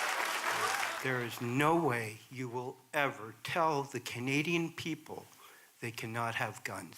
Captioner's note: applause